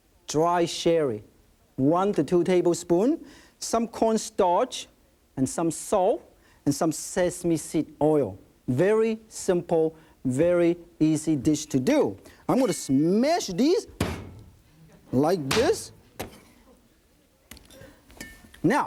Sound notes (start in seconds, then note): 14.0 cleaver thudding